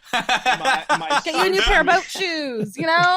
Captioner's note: group laughing